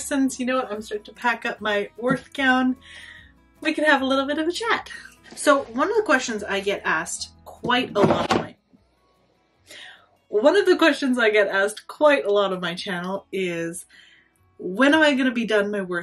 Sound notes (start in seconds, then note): 7.7 bin lid clatters to the floor